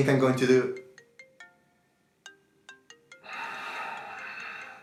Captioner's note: phone ringing